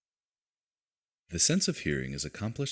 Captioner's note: voiceover